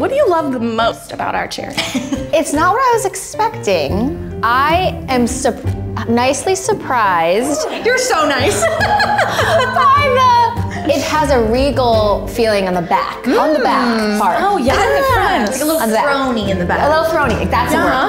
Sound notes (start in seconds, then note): 7.4 laughs